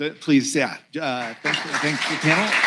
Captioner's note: applause